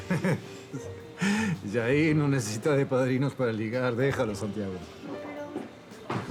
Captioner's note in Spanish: Risas